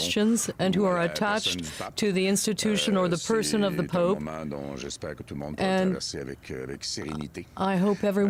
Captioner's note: speaking French